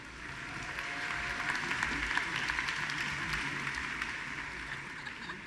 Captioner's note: audience applauding